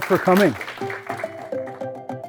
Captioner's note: applause